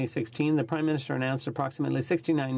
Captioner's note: speaking in french